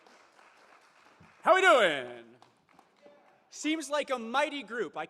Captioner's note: applause